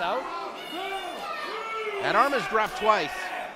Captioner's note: crowd boos